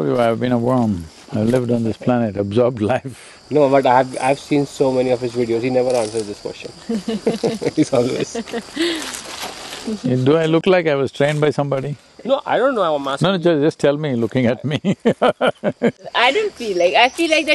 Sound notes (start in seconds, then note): 6.8 laughs; 14.3 laughs